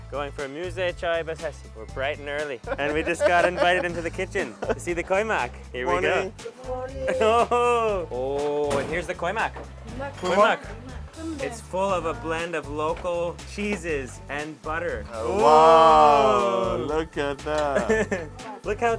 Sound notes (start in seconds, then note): 7.0 laughs